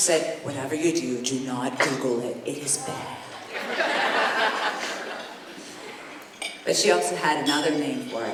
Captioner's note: laughter